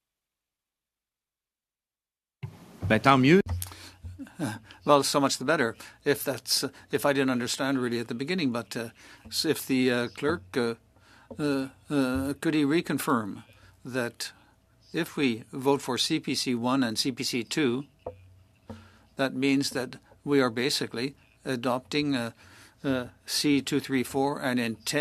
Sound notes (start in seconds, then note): 6.8 speaking French